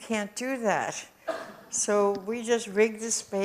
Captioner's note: audience cough